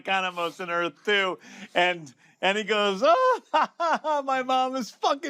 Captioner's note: laughs